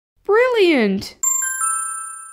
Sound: ding!

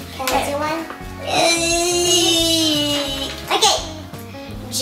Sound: screeching

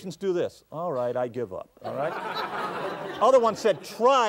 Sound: audience laughs

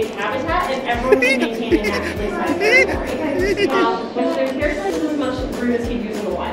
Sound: tickling with laughter sound effect again

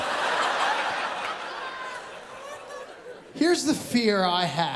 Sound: laughter

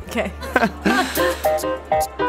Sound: awkward laughter

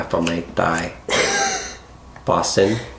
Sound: laughing

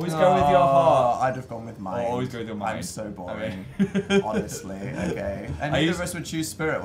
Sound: laughs

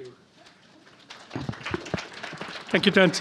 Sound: applauding

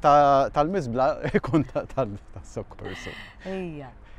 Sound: chuckling

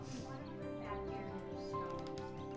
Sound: distant talking

